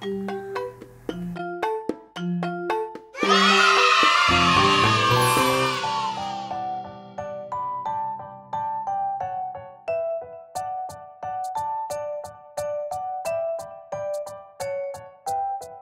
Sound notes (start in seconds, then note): 0.0 quirky music; 3.1 crowd cheering; 6.6 upbeat music